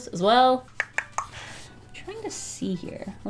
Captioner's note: mouth clicking